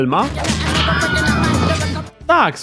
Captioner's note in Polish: dźwięk znany jako Wilhelm's Scream